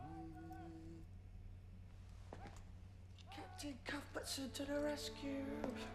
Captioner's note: hums